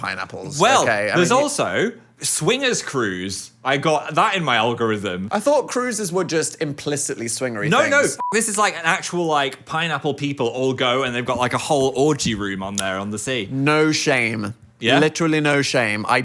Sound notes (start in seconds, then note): 8.2 beep